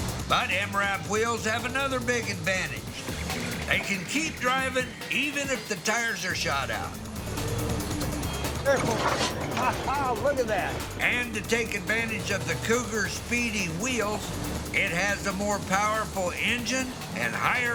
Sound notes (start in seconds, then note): 9.2 laughs